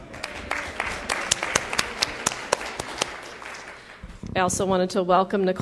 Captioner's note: applause